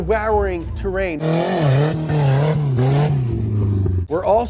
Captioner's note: engine revving